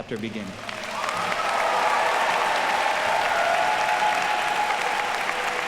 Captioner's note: audience cheers and applauds